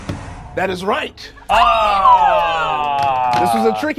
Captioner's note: cheers